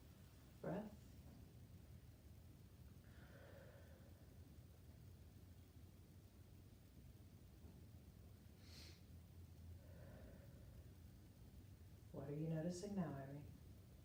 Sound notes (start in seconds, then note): 3.0 breathing deeply